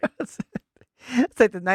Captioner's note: laughing